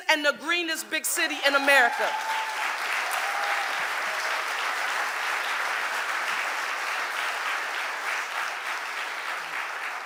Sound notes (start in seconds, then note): 1.5 audience applauding